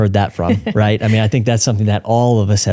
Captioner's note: laughing